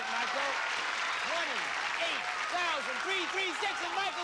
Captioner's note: cheers and applause